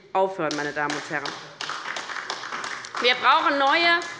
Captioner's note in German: Beifall bei der LINKEN